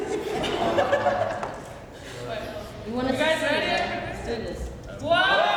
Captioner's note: crowd laughs